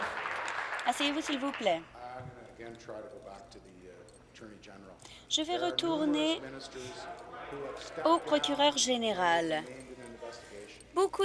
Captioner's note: applause